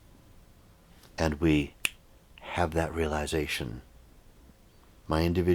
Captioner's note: fingers clicking